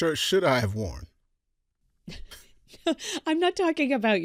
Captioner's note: chuckle